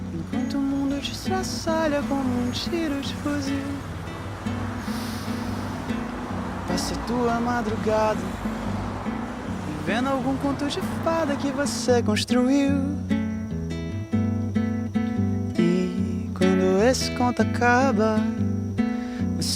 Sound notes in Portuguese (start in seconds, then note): none